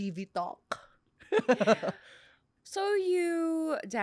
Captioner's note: laughs